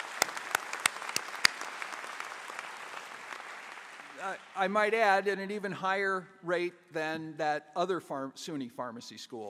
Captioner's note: applause